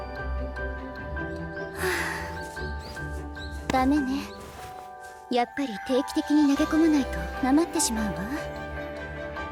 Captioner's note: sigh